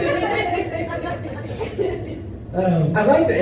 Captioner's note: laughter